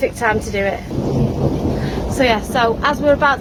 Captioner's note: thunder